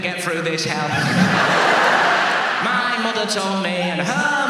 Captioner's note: audience laughs